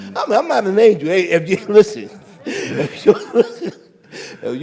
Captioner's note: laughs